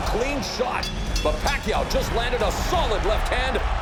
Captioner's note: bell dings